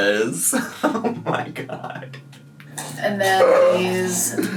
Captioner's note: laughing